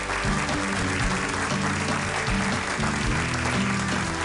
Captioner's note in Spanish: aplausos